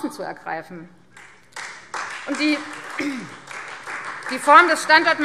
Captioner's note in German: Beifall Freie Demokraten